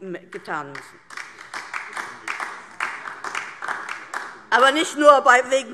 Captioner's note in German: Beifall DIE LINKE - Zurufe